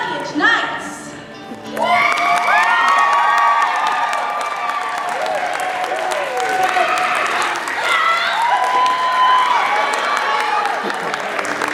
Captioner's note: cheering